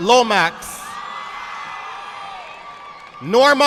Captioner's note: audience applauding